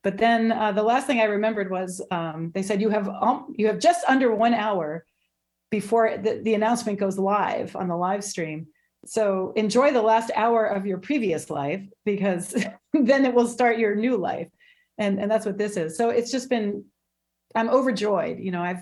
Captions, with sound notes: But then, the last thing I remembered was, they said, "You have all, you have just under one hour before the, the announcement goes live on the live stream. so enjoy the last hour of your previous life, because (chuckling) then it will start your new life. And, and that's what this is. So it's just been, I'm overjoyed.